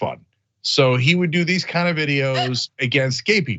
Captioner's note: laugh